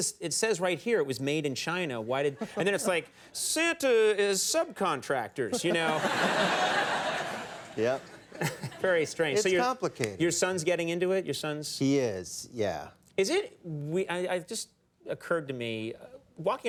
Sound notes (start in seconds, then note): 5.5 audience laughing; 6.2 Matthew laughing